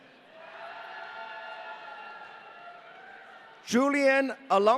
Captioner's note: audience cheering